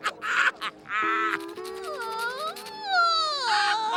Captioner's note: crying; Squidward laughs